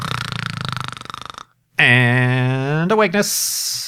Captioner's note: snoring